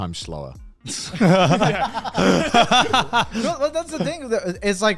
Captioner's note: all laugh